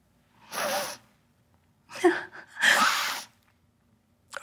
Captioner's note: sniffs, catches breath